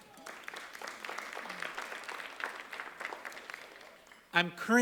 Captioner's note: applause